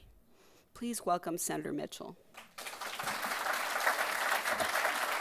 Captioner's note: crowd applauding